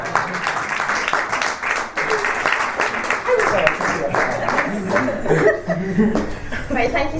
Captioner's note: panellists and audience cheer and applaud